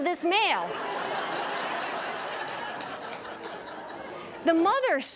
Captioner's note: audience laughs and applauds